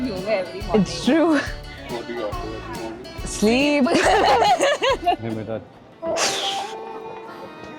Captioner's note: laughs